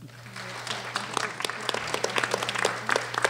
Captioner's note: applause